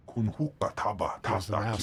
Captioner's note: speaking foreign language